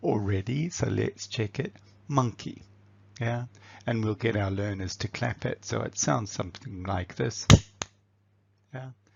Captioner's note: claps